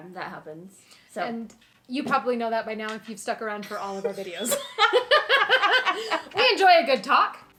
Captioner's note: laughing